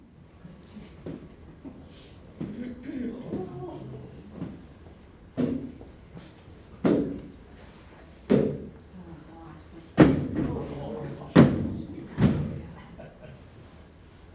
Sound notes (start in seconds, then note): 5.2 heavy footsteps climbing stairs